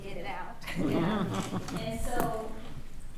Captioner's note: attendees laughing